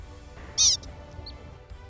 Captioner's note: Pika call